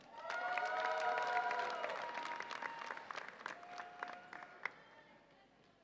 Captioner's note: audience applauds and cheers